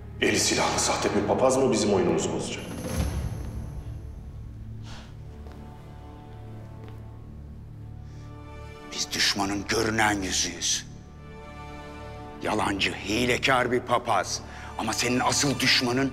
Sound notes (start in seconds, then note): 2.7 footsteps